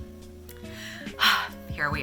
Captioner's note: 𝘴𝘪𝘨𝘩